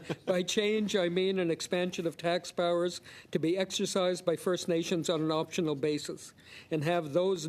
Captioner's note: laughter